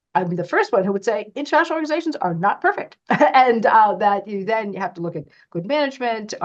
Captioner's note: laughs